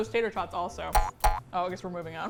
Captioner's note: boing boing